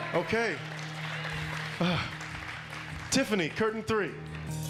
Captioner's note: sighs